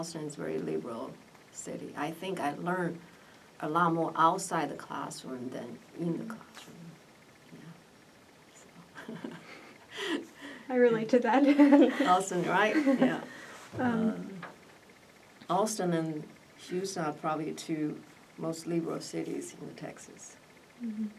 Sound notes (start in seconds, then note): 8.9 laugh; 12.0 laughs